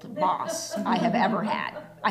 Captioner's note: laughter